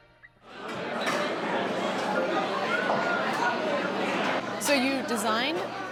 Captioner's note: chatter